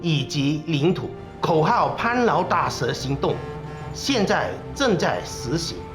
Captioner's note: speaking Chinese